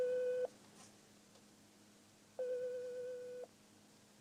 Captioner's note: ring